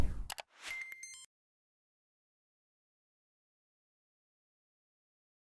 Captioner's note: computer mouse clicking; electronic beeping